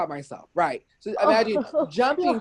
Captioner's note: chuckles